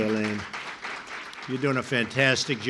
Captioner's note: applause